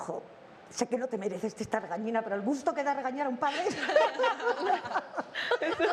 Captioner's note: all laugh